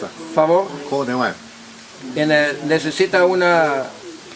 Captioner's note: speaking in Mayan